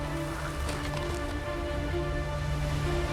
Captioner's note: wind blowing